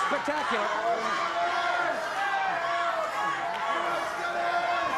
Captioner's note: audience chanting